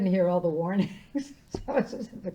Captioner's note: laughing